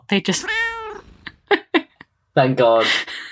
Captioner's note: laughs